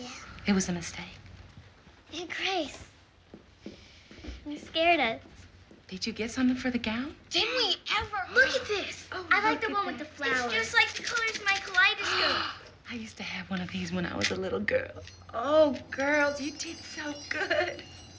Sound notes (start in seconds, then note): 12.0 gasps